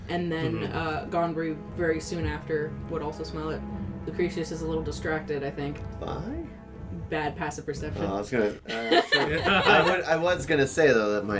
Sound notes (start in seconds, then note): 8.6 laughter